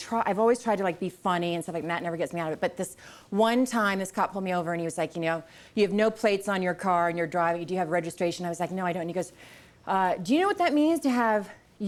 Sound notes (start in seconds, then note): none